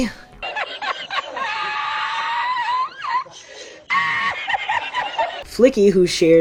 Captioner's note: wheezing guffaw